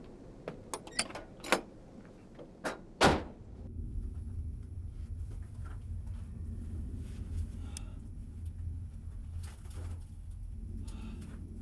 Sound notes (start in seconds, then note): 1.0 rattling; 3.0 door closes